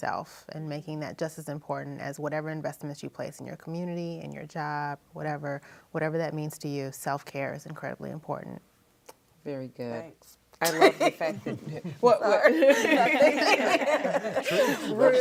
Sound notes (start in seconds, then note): 10.7 laughs